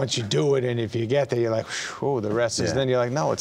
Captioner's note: puffs air